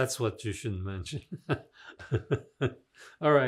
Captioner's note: laughing